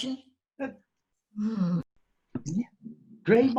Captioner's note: groans